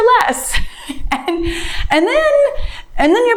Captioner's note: laughs